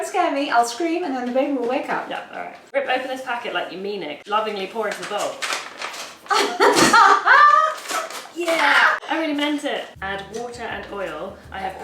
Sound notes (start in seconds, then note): 4.6 packet crinkles; 6.2 laughs